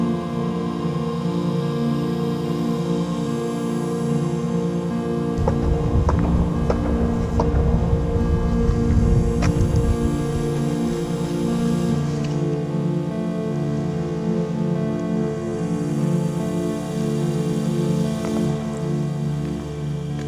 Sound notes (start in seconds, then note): 5.3 eerie, spacey music; 5.4 kicks against the wall echo deeply; 10.0 eerie, spacey music